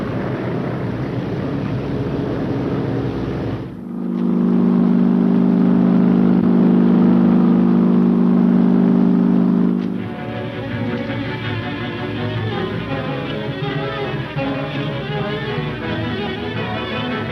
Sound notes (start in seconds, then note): 3.9 plane engine rumbling; 9.8 fast-paced adventurous music